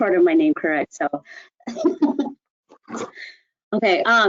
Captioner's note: laughing